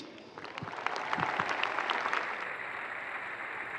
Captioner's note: crowd cheers